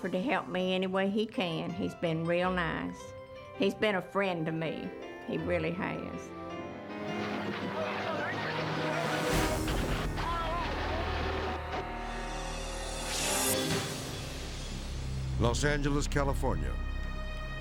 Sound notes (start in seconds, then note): 6.0 gentle music; 7.4 dramatic orchestral music; 13.2 transition whooshes